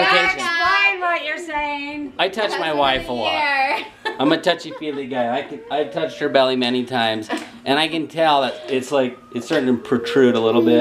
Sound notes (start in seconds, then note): 3.6 laughs